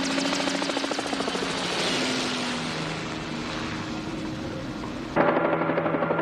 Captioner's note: helicopter approaching